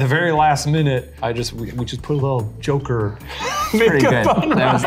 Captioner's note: laughs